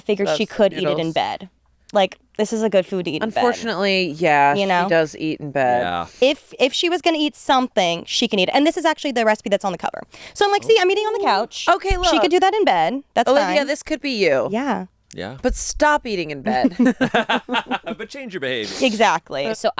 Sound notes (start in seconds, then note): 16.7 all laugh